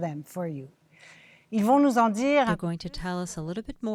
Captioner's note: speaking French